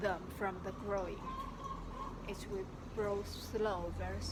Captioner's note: bird